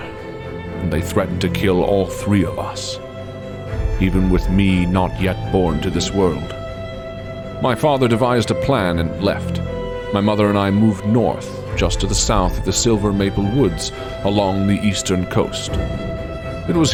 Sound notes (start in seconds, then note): none